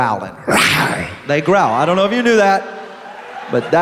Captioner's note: growl